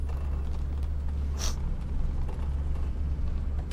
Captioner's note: sniffs